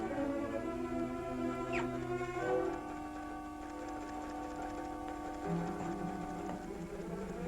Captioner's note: none